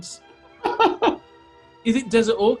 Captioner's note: giggling